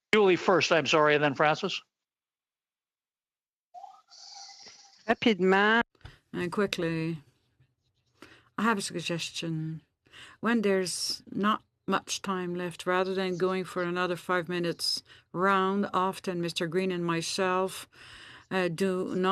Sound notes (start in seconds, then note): 7.8 speaking French